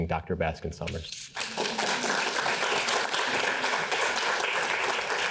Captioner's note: audience applauding